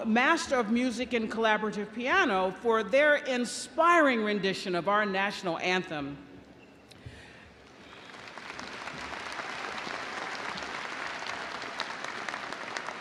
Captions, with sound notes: Master of Music and Collaborative Piano, for their inspiring rendition of our national anthem. (audience applauding)